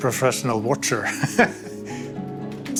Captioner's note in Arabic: ضحك